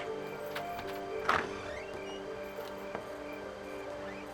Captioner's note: door creaking